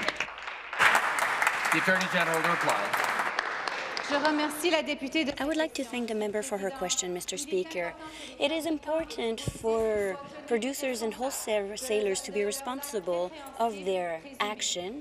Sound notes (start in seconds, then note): 3.0 applause; 7.9 speaking in French